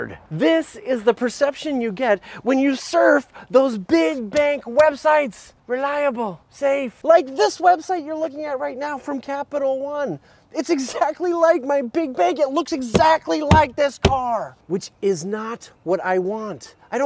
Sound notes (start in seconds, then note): 13.4 pounds car